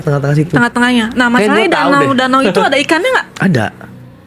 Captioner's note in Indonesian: tertawa